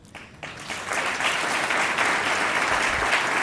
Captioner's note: applause